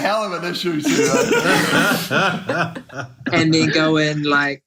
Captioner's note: laughs